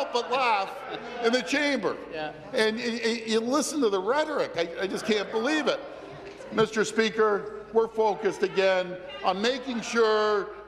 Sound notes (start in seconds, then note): 2.5 chuckles